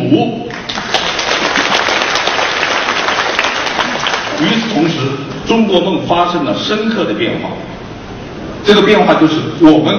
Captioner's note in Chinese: 掌声